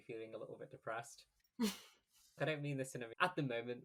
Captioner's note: laughs